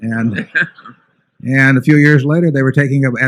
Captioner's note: laughter